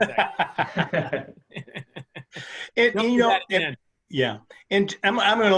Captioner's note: laughs